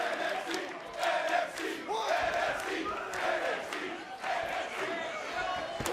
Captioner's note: fans chanting